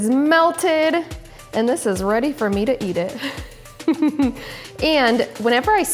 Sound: laughs

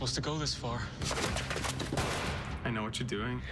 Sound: gunshot

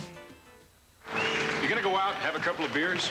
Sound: applause, then general bar noise throughout

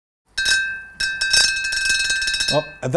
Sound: glass ringing

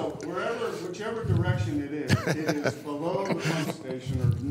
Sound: laughter

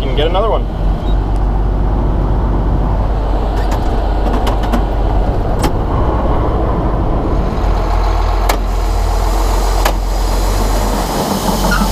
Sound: engine noise

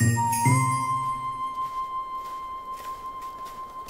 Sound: foot steps walking on the rooftop

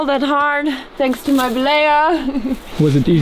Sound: giggles

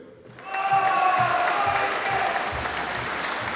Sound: audience applauding

